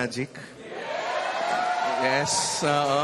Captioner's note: audience cheers